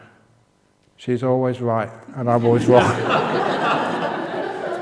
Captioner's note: laughter